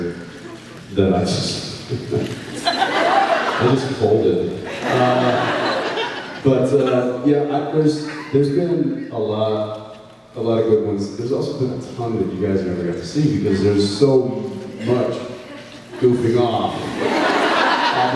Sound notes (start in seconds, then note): 2.0 laughs; 16.8 laughs